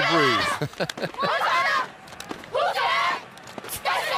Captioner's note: huddle chant